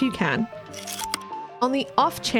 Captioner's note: projector slide click